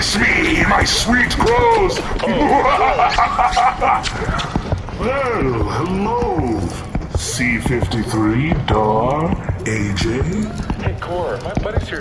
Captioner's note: kissing